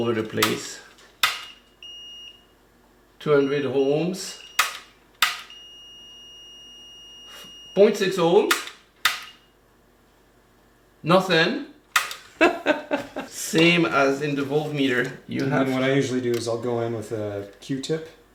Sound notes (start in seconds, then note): 12.3 laughter